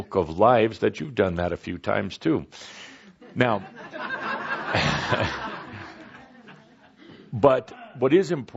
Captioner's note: laughter